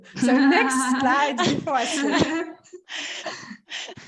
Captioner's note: laughter